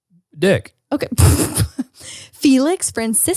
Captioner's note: laughs